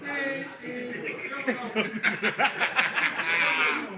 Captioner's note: laughing